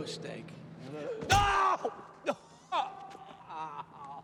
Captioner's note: gasps for air; cries out